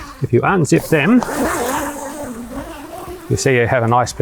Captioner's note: zipper gliding